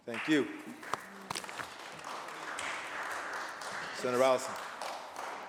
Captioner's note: applause